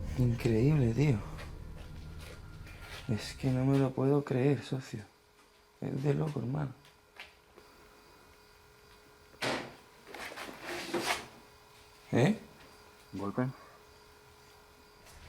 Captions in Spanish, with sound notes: ES INCREÍBLE AMIGOS ES QUE NO LO PUEDO CREER, ES UNA LOCURA (GOLPES Y RUIDOS EXTRAÑOS) un golpe